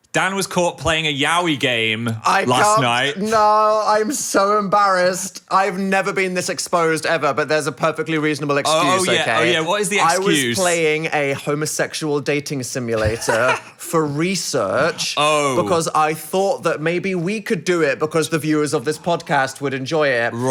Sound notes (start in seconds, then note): 13.0 laughing